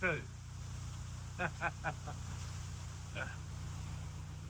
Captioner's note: laughter